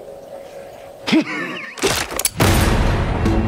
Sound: laughs

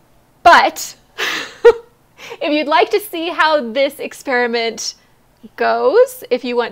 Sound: laughs

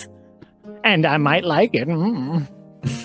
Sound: pervy Mumbles

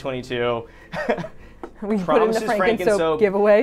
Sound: laughs

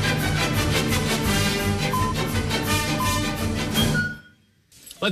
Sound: electronic beeping

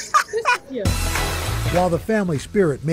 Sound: laughter

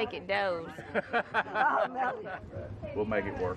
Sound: laughing

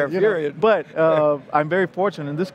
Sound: laughter

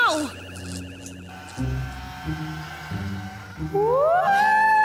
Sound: creak

